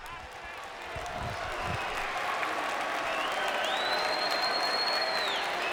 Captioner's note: audience cheering and clapping